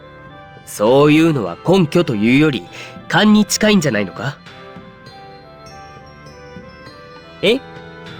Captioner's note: sigh